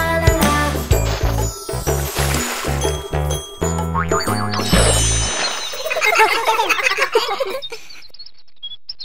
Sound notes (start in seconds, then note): 0.5 water splashing; 5.8 laughing